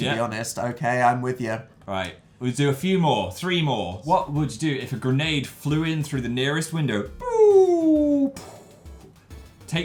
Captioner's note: grenade throwing noise